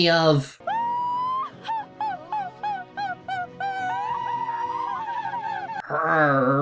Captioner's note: laughs